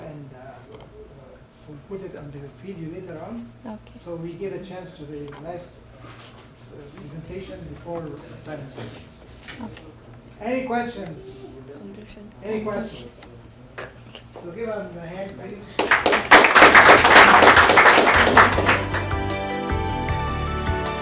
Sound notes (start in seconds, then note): 15.7 audience claps; 18.4 cheerful synth music